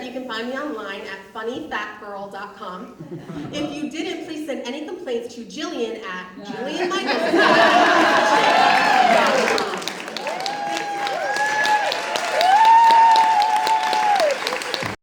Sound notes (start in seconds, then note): 11.9 audience cheers